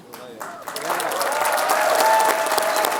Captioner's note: applause